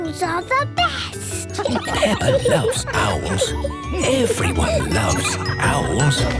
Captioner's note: kids giggling; narrator whispering; laughing